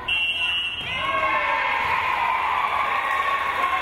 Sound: whistle blows

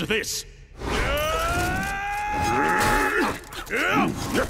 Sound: grunting

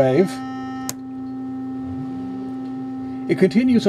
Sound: droning sound changes

